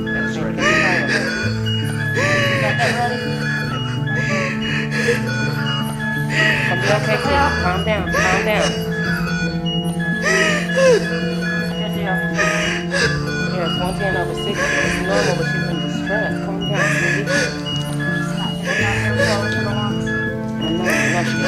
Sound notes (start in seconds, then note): 0.2 Mary gasping for air; 9.9 medical machines beeping